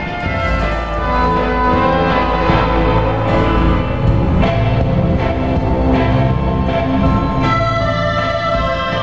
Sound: tripod horn

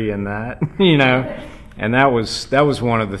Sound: laugh

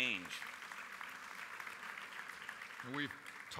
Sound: applause

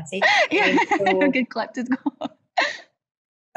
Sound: laughs

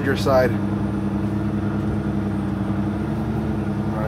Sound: engine revving

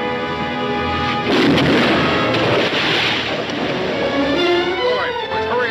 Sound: cannon roaring; cannonball splashing

